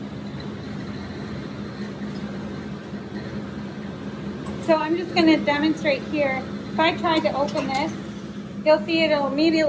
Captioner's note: mixing sounds